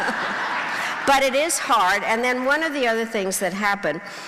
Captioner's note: crowd laughing